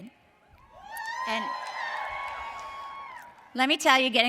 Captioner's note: audience cheers